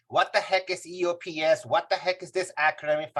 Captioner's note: none